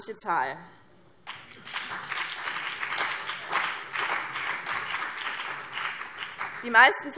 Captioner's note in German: Beifall BÜNDNIS 90/DIE GRÜNEN und CDU